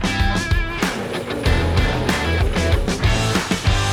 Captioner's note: machine Motor Turning